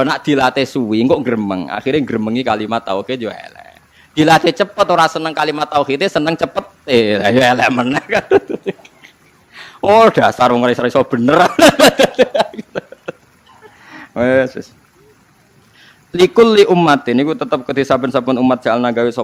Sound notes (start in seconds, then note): 6.3 laughs